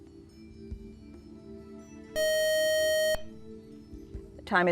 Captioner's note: buzzer